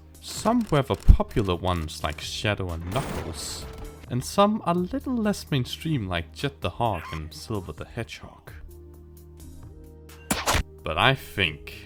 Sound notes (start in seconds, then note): 8.9 silence; 10.0 kick